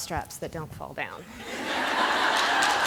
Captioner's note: laughter